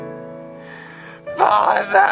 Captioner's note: inhale